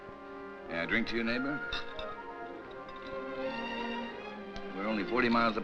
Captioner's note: glasses clink